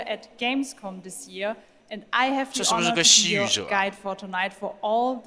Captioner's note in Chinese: 泣不成声